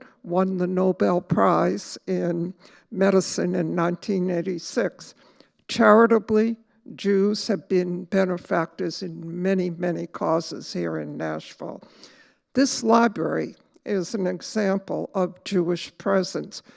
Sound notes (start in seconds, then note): none